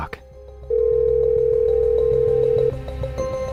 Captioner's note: phone ringing